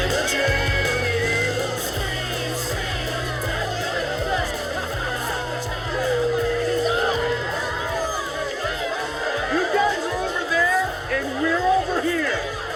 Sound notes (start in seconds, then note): 6.6 indistinct chatter